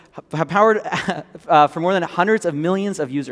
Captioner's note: chuckles